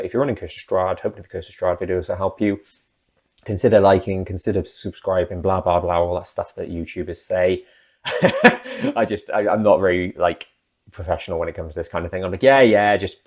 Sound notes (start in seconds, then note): 8.1 laughs